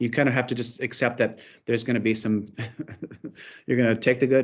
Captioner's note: chuckles